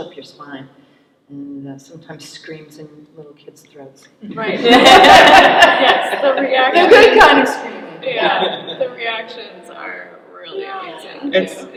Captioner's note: laughter